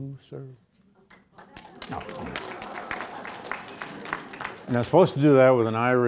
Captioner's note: audience applauding